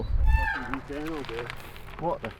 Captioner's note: brakes squealing